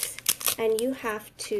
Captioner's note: wrapper crinkling